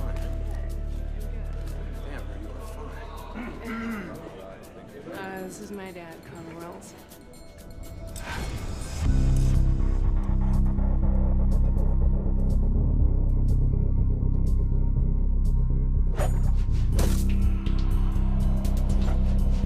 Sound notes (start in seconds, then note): 3.3 Conner clearing throat; 9.2 soft dramatic music; 16.6 knife thudding